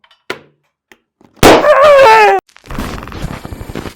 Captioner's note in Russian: хлопок и вскрик